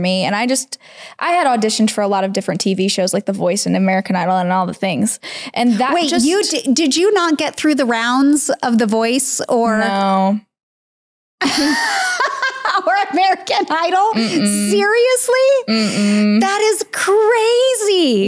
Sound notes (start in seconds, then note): 11.4 laughs